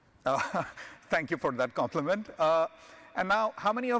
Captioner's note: chuckles